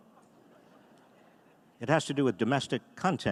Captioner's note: audience laughing